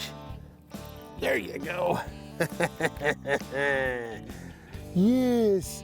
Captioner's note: chuckles